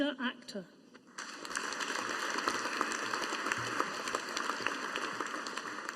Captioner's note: audience applauding